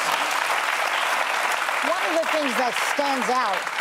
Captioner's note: applause